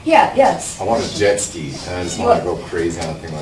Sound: voiceover

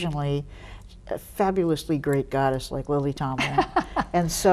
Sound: Lily laughs

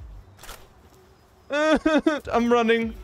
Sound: sobbing

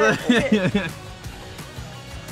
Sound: laughing

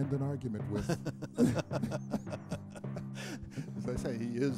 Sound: laughter

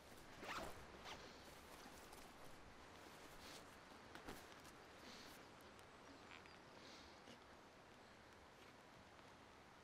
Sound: unzipping

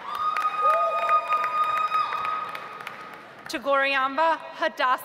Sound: audience applauds

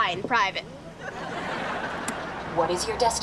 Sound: laughing

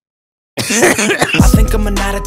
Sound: cough

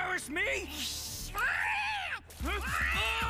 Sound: meowing, hissing

